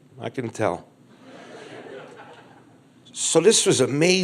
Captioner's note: crowd laughs